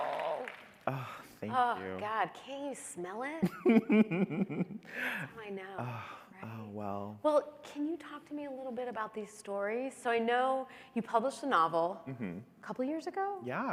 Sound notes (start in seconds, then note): 3.7 laughing